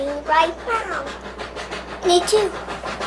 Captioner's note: train huffing